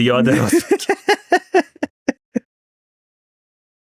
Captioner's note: laughs